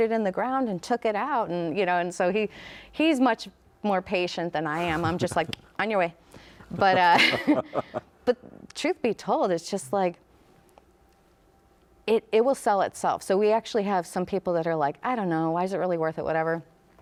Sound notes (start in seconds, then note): 4.8 mouth clicks; 4.9 laughs